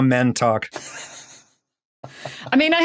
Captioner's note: wheezes